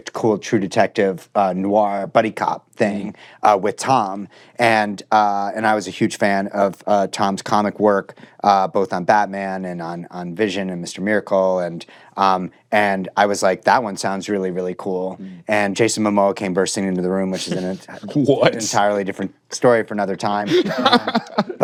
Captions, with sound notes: True Detective, noir, buddy cop thing with Tom. And I was a huge fan of Tom's comic work, both on Batman and on Vision and Mr. Miracle, and I was like, "That one sounds really, really cool." And Jason Momoa came bursting into the room, -which is... -(CHUCKLING) What? ...an entirely different story for another time. (LAUGHS)